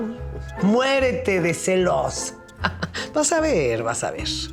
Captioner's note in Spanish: Ríe